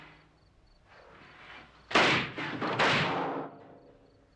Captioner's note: explosions